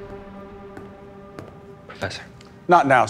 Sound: footsteps

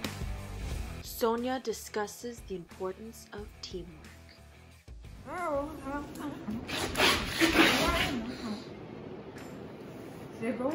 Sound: laugh

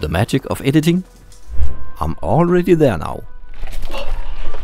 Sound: whoosh

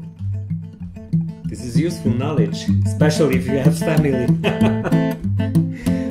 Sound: ha-ha

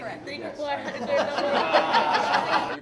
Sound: laughing

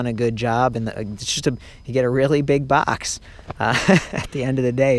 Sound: laughs

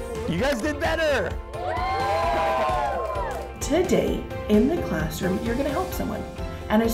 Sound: students cheer

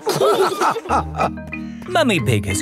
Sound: all laughing

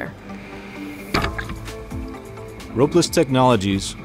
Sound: trap clicks

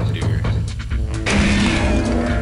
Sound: gunshot

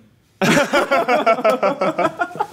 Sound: laughs

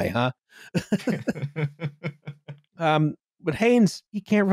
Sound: laughing

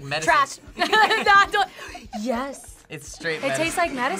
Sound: gags; laughs; gasps

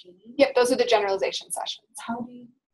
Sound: voiceover

